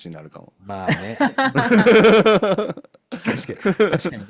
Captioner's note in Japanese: 笑い